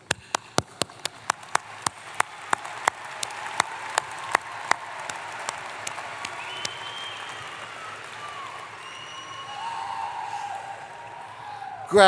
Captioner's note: applause